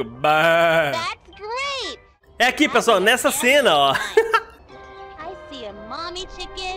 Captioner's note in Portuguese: risos